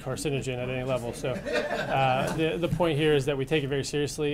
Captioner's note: laughter